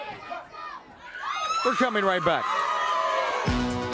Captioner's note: crowd cheering